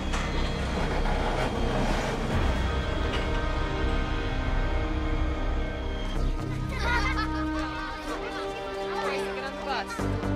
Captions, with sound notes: (Kids laughing) Get on the bus.